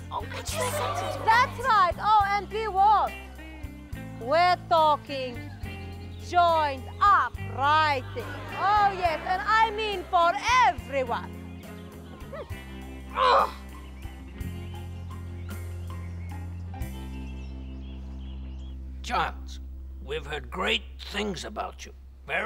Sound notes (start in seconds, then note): 0.2 audience complaining; 8.2 audience exclaiming